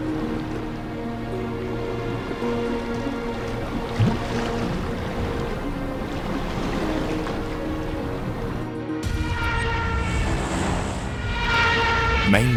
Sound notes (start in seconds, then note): 1.2 bright music; 4.7 water splashing; 10.0 plane engine roaring